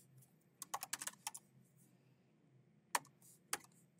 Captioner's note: keyboard clacking